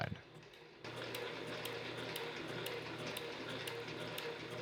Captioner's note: machine whirring